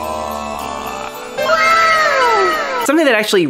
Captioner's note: anime "uwaaa" sound effect